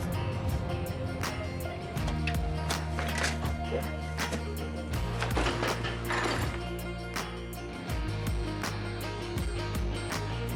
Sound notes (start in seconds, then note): 0.2 slow bluesy music; 3.5 metal clanging